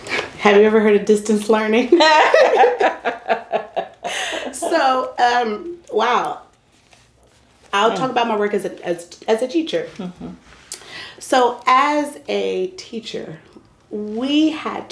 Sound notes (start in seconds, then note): 5.1 laugher